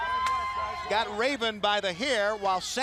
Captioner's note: crowd chatter